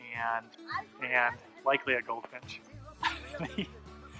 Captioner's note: laughs